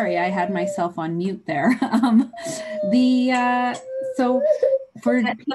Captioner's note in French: laughs